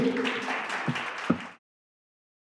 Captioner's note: audience applauding